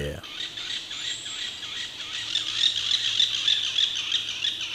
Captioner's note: birds chirp